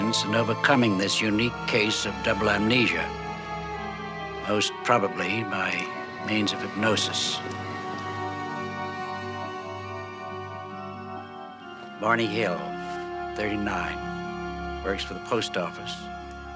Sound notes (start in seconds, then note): none